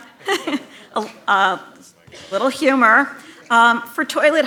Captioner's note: laughter